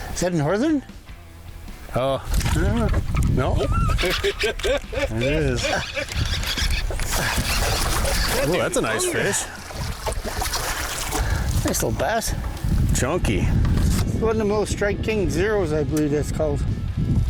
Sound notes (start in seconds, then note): 3.4 laughs; 3.5 fishing rod whirring; 7.2 water sloshing; 10.1 water sloshing